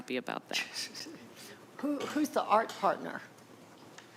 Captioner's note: chuckling